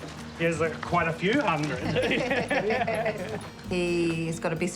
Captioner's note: chuckles; laughs